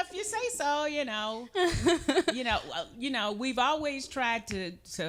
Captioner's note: laughing